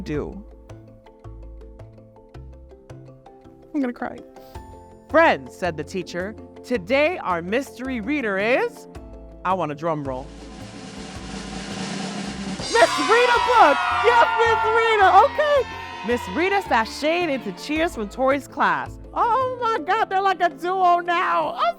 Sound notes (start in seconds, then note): 0.2 gentle music; 10.3 drum roll; 12.6 children cheer